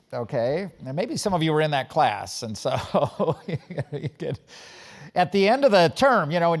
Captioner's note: laugh